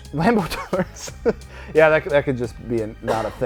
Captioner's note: laughs